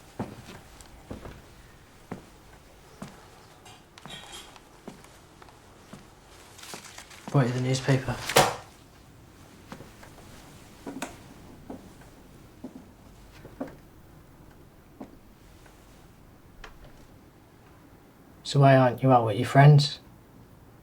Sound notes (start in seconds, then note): 0.0 muted footsteps thudding; 6.6 newspaper thuds; 9.4 muted footsteps thudding